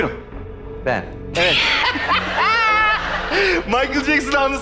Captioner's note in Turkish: Gülüşmeler